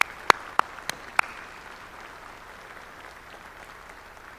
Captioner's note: applause